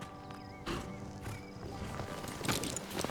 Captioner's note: horse pants